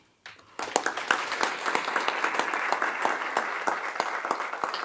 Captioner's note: audience clapping